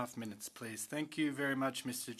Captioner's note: speaking French